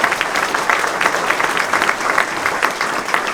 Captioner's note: applause